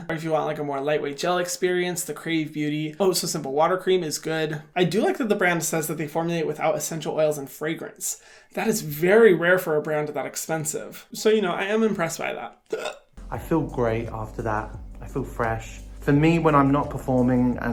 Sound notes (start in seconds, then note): 12.7 hiccups